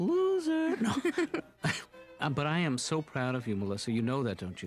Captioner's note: laughs